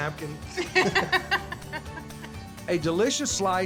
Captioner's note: laughter